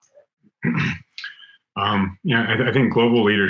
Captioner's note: clears throat